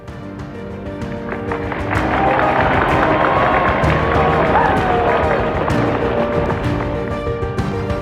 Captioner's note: people cheering